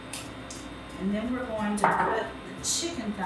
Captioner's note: bottle banging